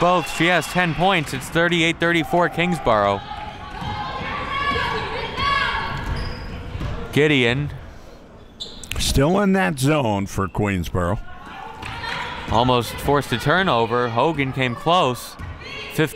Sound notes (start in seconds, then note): 0.6 crowd clapping; 4.3 sideline players shouting